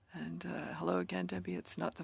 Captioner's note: speaking French